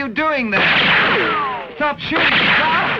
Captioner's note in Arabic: إطلاق نار